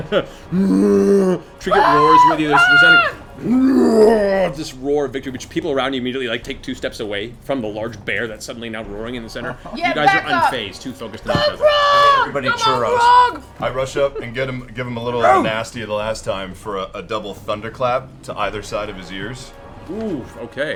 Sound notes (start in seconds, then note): 0.4 roars; 3.4 roar